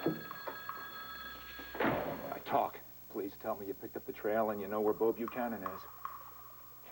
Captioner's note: thone rings